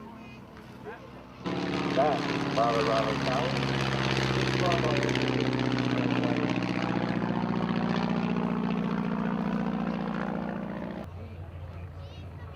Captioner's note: aircraft sounds